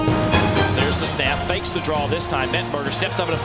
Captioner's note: voiceover